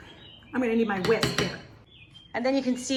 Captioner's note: utensil bangs on glass